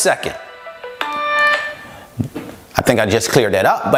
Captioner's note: phone sound stops